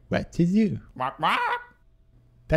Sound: squawking

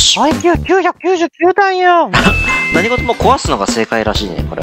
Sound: happy noises reax

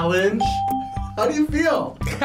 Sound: bell rings

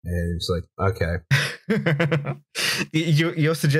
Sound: laughter

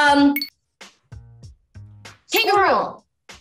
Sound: timer chirping

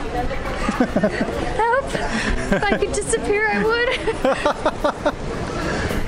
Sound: laughter

